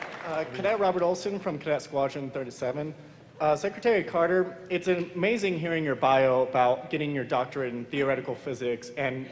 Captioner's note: applause